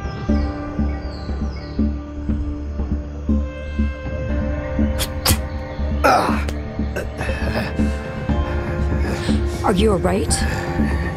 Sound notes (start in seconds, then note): 4.9 spitting; 6.0 Leonard groaning